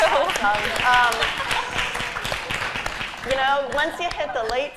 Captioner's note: applause